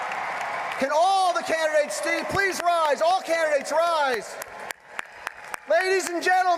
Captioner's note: applause